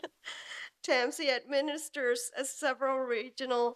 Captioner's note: laughs